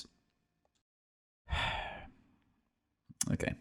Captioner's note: sigh